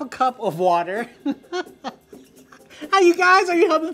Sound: laughing

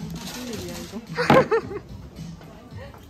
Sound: laughs

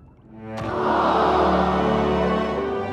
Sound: crowd ooo-ing

